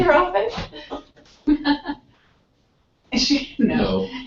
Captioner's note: laugh